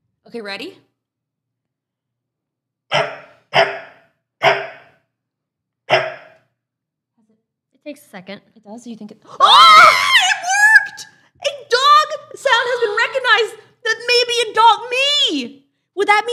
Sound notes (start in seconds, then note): 2.9 barking; 9.4 both scream